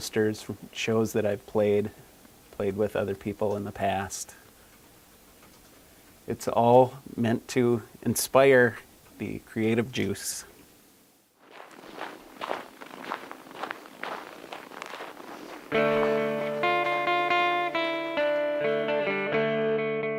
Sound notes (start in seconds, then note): 11.4 snow crunching